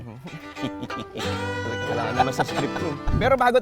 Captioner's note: laughs